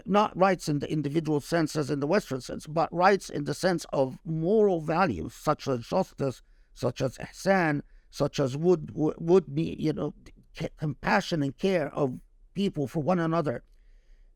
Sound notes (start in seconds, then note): 7.6 speaking Arabic